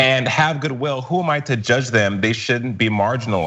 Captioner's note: laugh